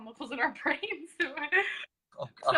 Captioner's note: chuckles